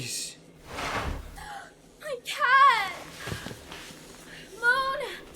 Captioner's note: gasps